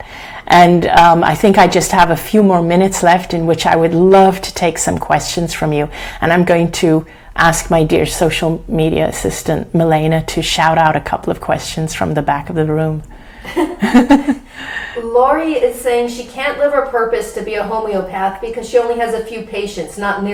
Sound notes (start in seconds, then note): 13.5 laughing